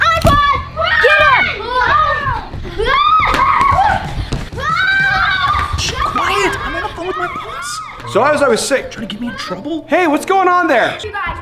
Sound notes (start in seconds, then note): 1.7 everyone screaming